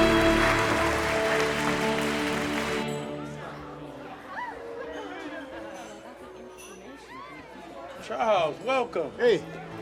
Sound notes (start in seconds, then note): 2.8 background chattering